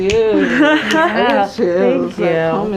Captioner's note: laughing